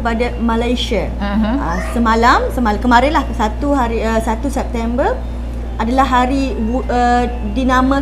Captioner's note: Malay language